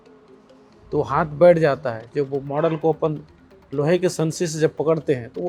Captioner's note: speaking foreign language